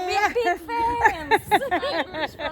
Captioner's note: chuckles